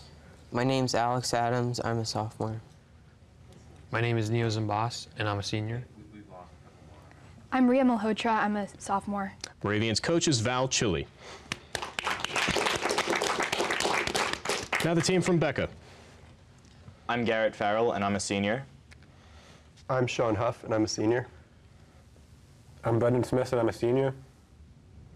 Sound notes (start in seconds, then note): 11.4 applause